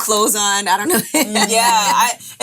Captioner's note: laughing